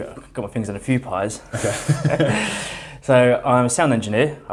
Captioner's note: laughs